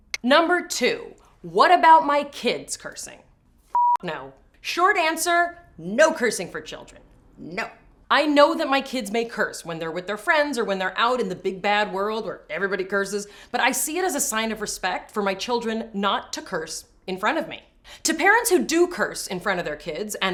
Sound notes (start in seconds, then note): 3.7 beep